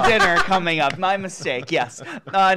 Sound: laughing

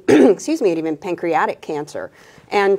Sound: clears throat

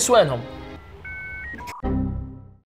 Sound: dial-up Internet sound

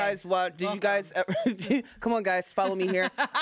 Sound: laughs

